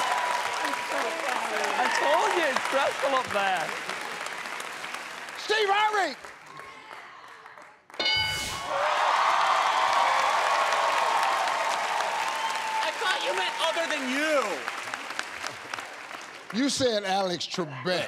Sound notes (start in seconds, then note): 8.0 ding; 8.8 cheers and applause